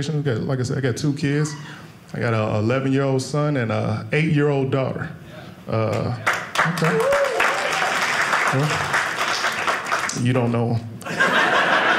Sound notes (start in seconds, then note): 6.0 audience applauding; 11.0 audience laughing